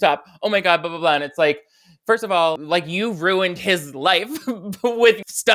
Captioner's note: laughs